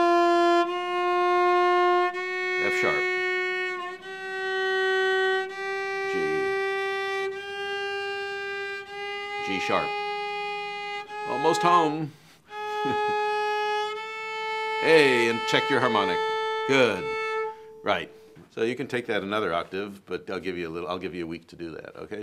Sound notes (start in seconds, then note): 0.2 continues playing notes; 12.6 chuckling